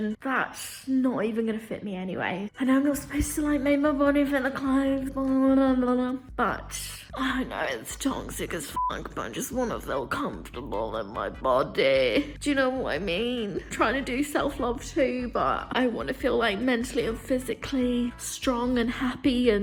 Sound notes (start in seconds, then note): 8.7 beep